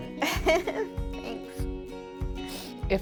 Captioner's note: laughs